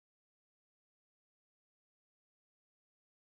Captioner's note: none